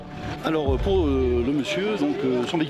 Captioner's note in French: audio parlé en français